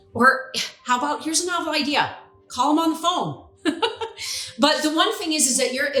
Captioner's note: chuckles